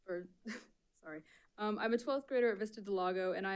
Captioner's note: chuckles